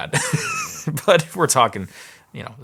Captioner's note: laughing